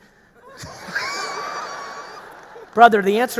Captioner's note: audience laughing